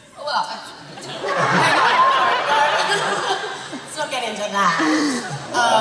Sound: laughter

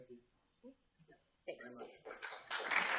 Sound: applause

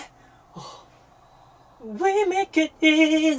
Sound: out of breath

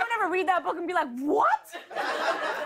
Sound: laughter

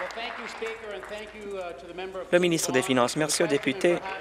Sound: applause

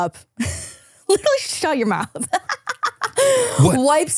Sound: laughing

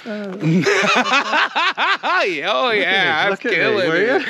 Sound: Ron laughing

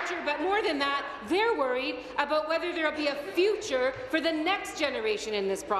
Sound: applause

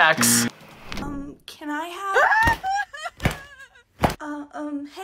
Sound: buzzer rings; whimpers

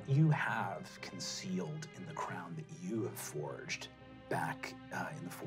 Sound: none

